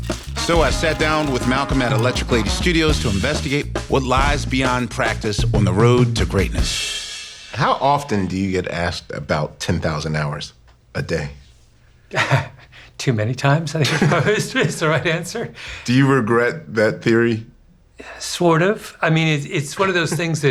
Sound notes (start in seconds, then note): 12.1 laughs